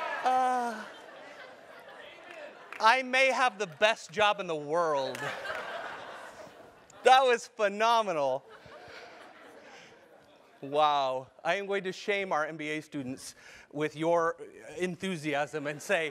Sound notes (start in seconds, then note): 5.1 laugh